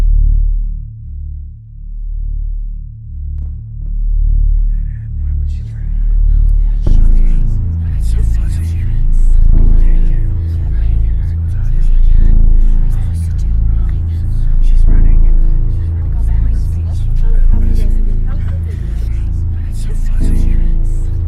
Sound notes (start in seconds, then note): 0.1 deep bass music; 6.4 distant chattering; 18.0 distant chattering